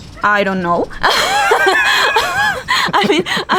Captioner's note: laughs